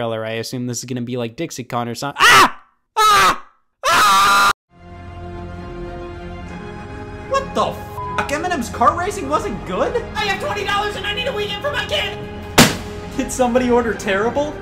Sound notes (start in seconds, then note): 2.0 screaming; 5.6 orchestral music; 8.0 beep